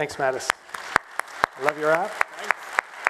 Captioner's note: applause